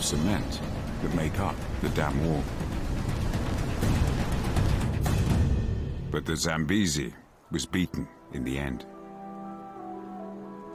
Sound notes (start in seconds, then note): 3.1 peaceful music; 3.1 water flowing